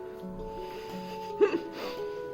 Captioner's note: giggles